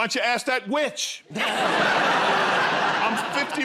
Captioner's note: laughter